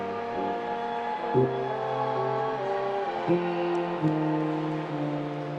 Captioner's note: attendees cheering